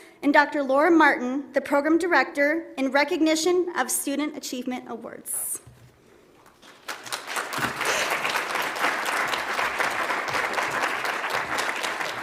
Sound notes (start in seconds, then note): 6.5 audience applauds